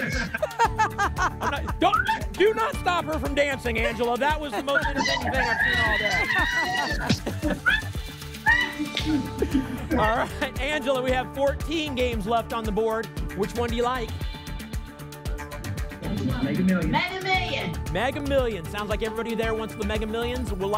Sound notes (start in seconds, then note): 0.0 laughs; 6.4 laughs; 7.7 cheering